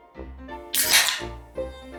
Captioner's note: tab pops